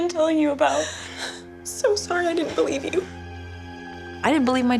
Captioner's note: cries